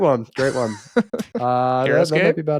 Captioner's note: laughing